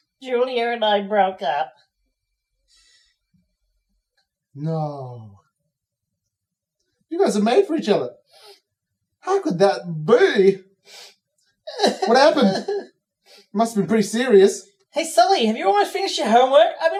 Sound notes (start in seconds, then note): 8.3 sniffs; 10.9 sniffs; 11.7 Cataliss sobs